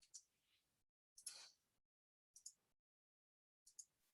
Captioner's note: mouse clicking